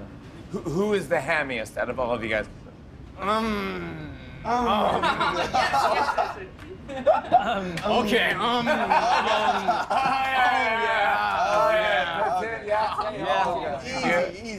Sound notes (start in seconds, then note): 4.8 laughter